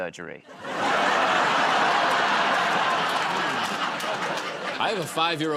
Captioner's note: laughter